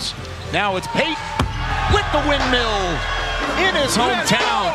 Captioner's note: dunk thuds